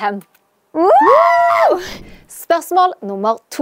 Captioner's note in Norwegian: Jubel